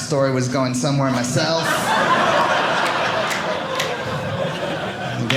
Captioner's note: audience laughing